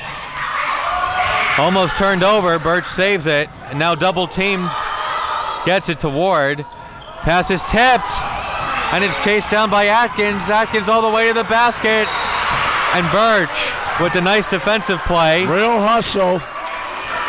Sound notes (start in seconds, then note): 11.9 whistle blows